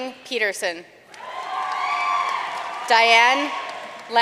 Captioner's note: audience cheering and applauding